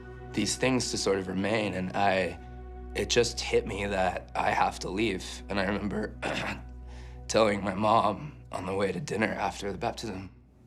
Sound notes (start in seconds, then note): 6.2 limpa a garganta